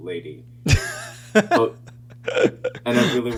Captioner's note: laughing